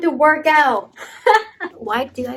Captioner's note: laughing